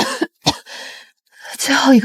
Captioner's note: cough cough